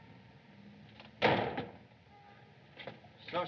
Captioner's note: door Slams Shut